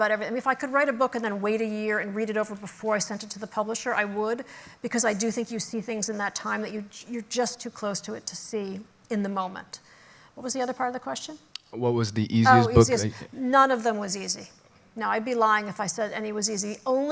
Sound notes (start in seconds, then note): none